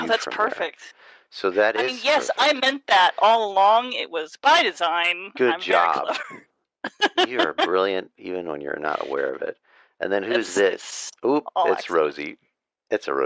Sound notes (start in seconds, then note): 5.3 laughs